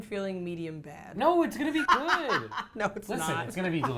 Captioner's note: laughing